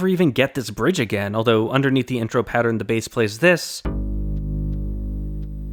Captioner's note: bang